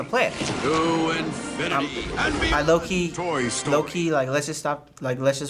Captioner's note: buzz